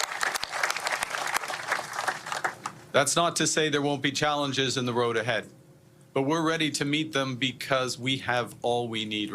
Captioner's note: applause